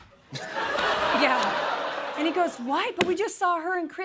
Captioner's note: laughter